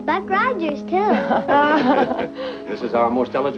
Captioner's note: chuckling